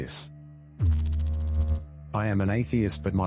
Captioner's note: electrical noise